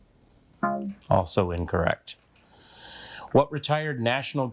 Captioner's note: buzzer beeps